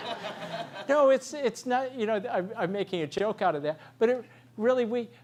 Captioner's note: laugh